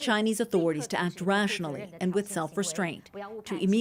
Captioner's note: speaking alternate language